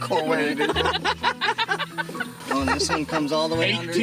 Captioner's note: laughing